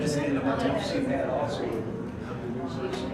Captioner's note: background Discussion